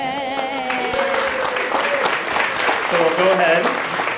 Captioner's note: clapping